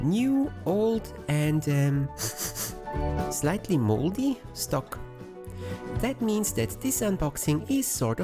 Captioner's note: sniffsniff